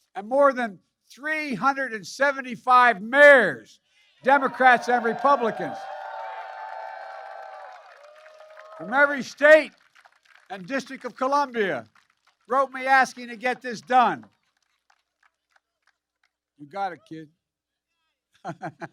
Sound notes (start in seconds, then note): 7.6 applause